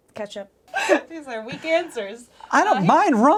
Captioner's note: laughing